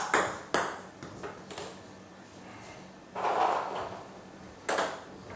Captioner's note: balls ping pong hitting continues